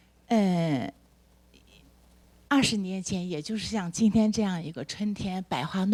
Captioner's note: speaks Mandarin